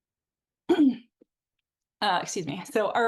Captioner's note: clears throat